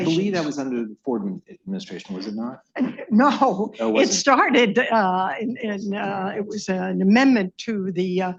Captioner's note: laughs